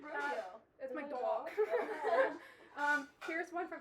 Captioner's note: laughter